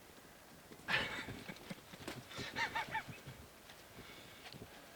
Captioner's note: hunter chuckling